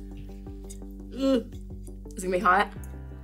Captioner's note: groans